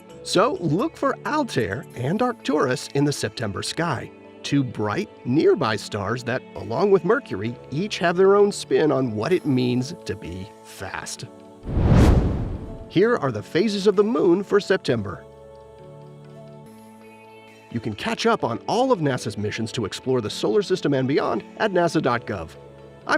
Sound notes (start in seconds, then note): 11.6 meteor swishes